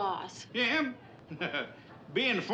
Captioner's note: Pylant chuckling